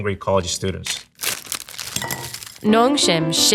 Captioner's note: packaging crinkling